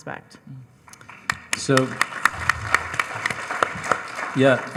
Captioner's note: panel and audience clapping